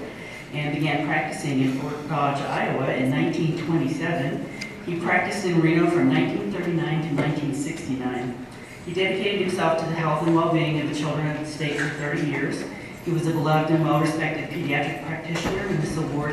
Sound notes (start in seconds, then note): none